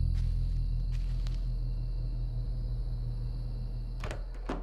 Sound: footsteps crunching leaves

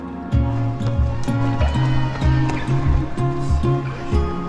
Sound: crowd cheers

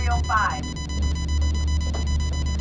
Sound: monitor beeping

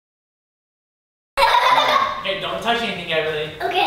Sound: laughs

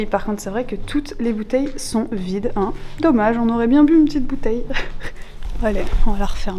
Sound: laughing

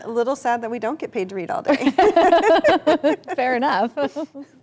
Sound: both laughing

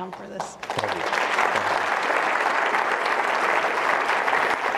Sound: applause

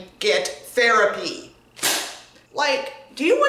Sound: s l a m

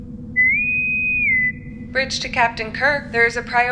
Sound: intercom whistle

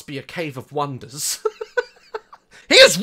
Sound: laughs

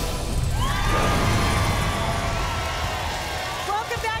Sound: audience applause

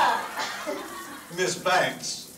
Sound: team laughing

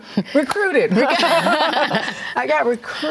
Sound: laughing

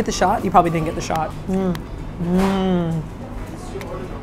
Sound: noises of delight

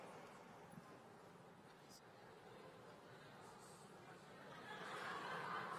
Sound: laughter

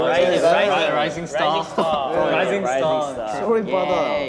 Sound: all chattering

